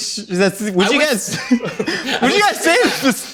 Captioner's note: laughs